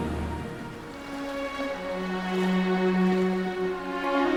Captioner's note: water sloshing